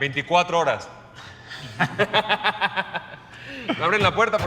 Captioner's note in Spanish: Risas